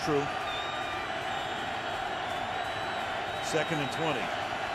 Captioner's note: cheering